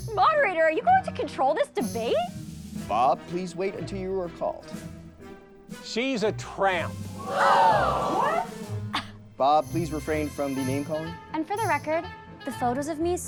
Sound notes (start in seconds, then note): 7.3 gasps